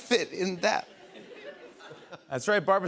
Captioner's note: laughter